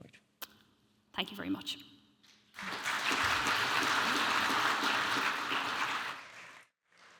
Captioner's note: audience applauding